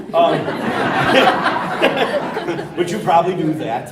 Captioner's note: laughter